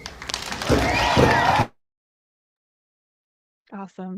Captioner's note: audience cheering